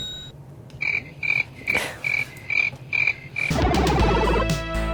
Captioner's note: crickets; video game music